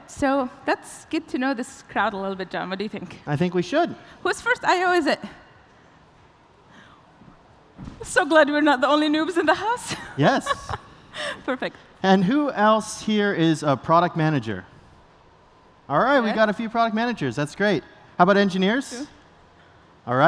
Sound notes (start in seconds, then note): 9.9 laughs